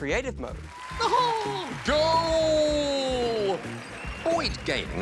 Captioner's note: chuckles